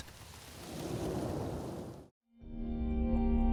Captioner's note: air whooshing; delightful music